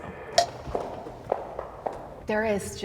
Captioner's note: stick clanking; footsteps thumping